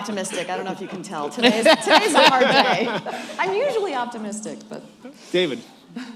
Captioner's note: laughter